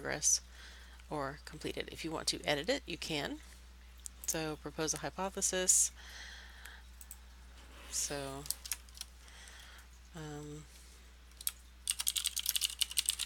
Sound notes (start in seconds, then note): 11.8 typing